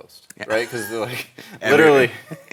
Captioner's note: laughs